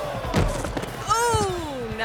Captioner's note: thuds